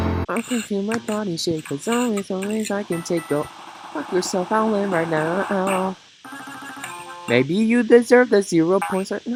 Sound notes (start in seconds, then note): 3.8 quack